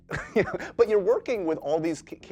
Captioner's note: chuckles